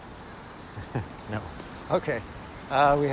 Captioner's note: chuckles